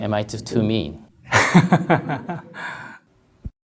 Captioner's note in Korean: 스님 웃음